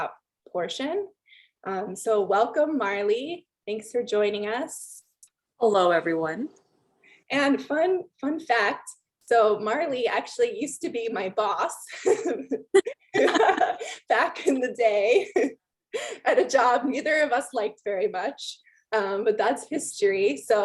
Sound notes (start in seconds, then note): 12.1 laughing